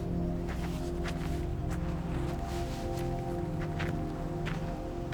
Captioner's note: footsteps on gravel